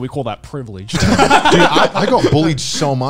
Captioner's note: laughing